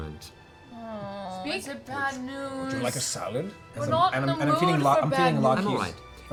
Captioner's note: groans